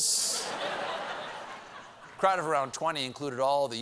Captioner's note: laughter